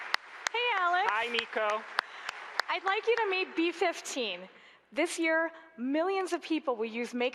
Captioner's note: applause